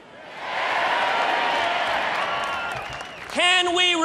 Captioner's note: applause